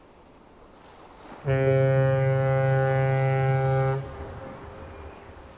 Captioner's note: big Ol' Boat Honk #2